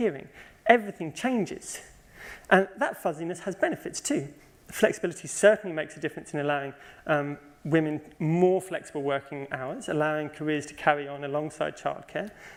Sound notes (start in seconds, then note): none